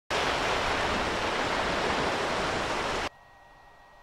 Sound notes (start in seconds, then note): 0.1 ocean sounds